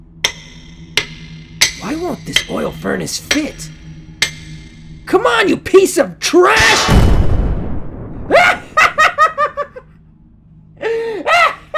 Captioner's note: metal banging; explosion